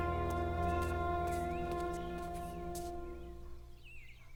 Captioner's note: birds chirping